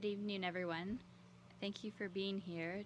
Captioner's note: speaking French